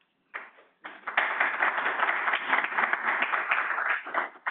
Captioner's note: audience applauding